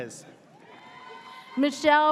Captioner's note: audience cheers